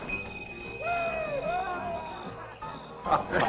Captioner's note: cheering